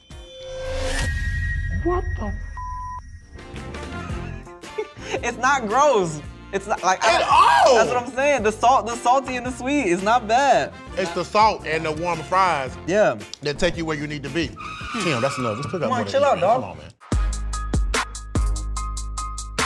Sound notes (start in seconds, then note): 0.2 dramatic Music; 3.2 cheery Music; 4.7 laughs